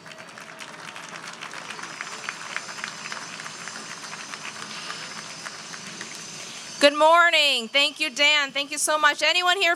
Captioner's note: applause